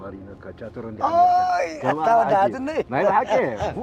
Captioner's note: laughs